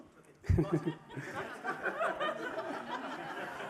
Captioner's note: laughter